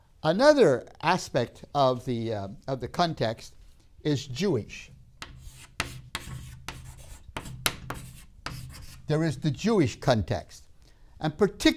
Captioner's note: chalk sounds